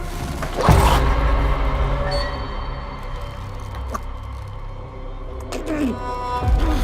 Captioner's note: ominous music; Shorty choking